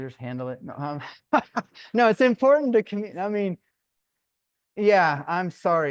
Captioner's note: laughter